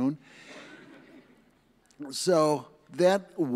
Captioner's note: audience laughs